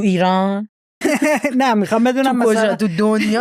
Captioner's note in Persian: خنده